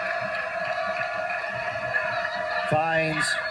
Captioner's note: crowd cheers